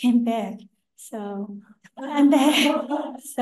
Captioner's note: laughter